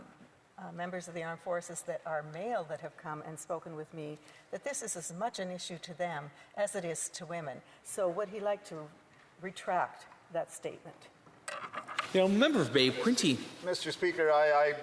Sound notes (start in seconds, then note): none